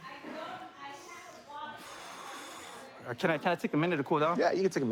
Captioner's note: exhales